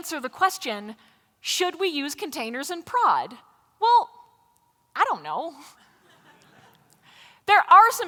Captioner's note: laughter